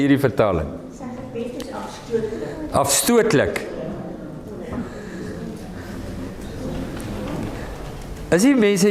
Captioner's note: audience answering